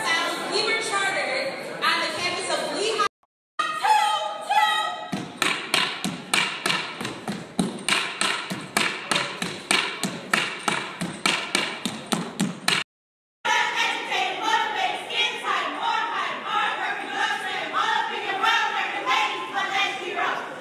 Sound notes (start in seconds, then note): 3.5 shouting; 13.4 chanting